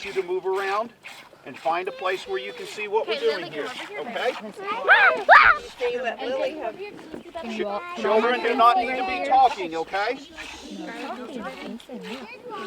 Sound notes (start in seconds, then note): 4.8 child screaming